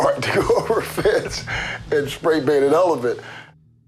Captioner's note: chuckles